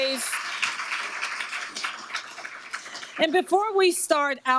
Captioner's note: audience applauding